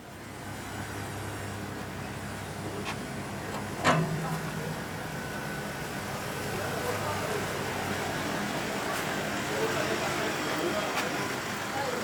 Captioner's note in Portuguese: som de carros